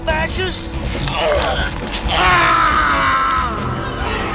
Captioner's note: screaming